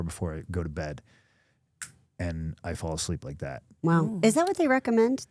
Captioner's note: snaps fingers